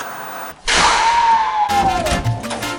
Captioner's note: static; screaming; salsa music